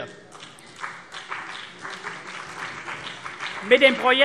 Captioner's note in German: Beifall CDU und BÜNDNIS 90/DIE GRÜNEN